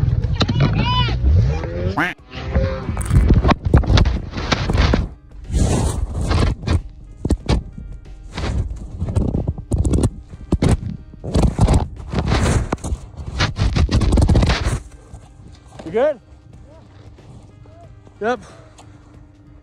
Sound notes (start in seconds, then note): 0.2 muffled shouting; 0.8 snowmobile revs; 1.4 narrator quacks; 2.8 muffled thuds and rumbling